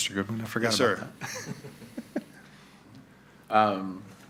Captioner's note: laughing